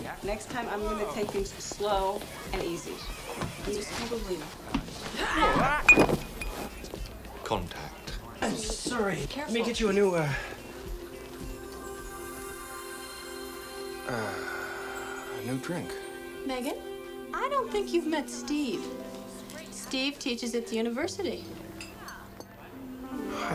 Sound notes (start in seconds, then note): 3.7 Megan screaming; 10.8 magical music